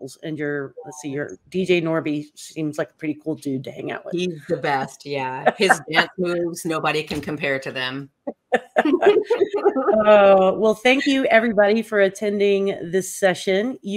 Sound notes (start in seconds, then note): 8.4 laughter